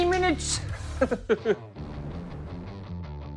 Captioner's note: laughs